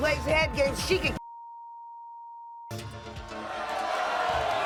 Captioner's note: audience boos